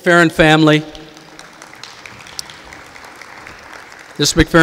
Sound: audience applauding

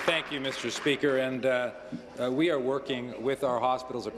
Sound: applause

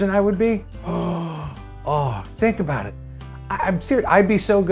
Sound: gasp

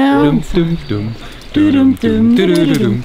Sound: humming

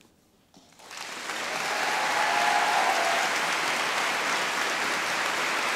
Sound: graduates applauding

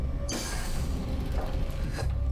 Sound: door opens

